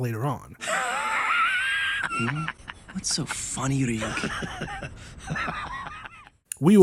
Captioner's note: Ryuk laughing